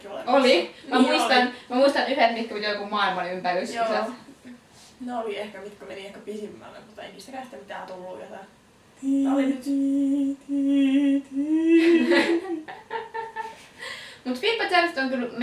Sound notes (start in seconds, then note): 9.0 SAd noiSEs